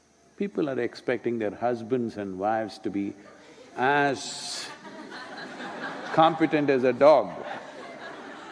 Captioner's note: laughter